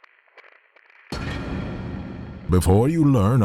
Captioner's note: sound of Geiger counter radiation measurement crackles; reverberant crash